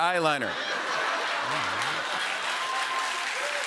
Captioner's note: laughter; cheers and applause